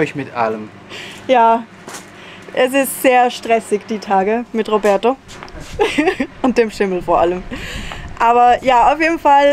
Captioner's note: laughter